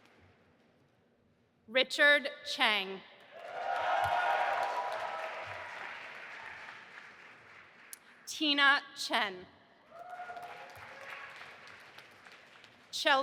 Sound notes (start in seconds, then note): 3.3 audience applauding and cheering; 9.8 cheering